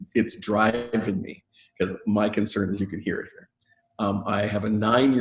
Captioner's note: mic cuts out